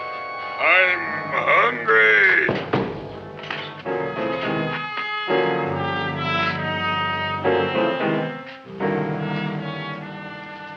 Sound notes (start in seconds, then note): 2.4 chair clatters; 3.7 dramatic music